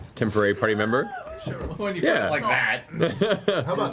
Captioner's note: laughs